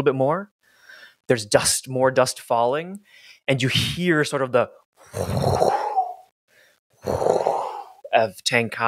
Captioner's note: imitates wind rushing